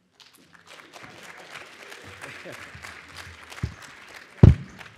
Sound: audience applauds

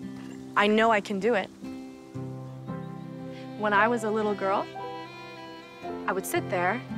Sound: none

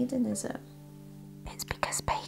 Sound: whispering

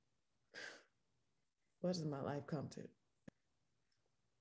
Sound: sighs

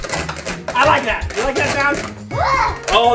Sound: screwdrivers scritching

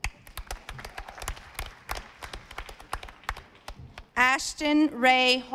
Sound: audience applauding

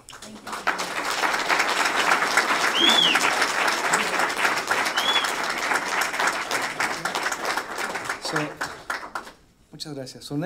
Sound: applause

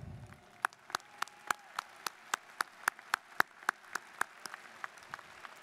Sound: students applauding

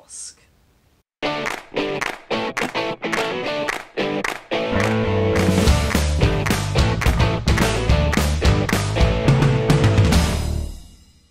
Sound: claps

